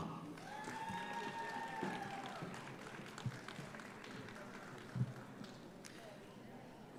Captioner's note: audience cheers; audience applauds